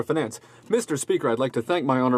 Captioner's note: speaking French